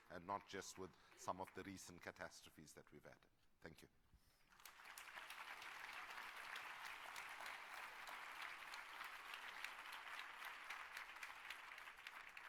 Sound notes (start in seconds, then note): 4.3 applause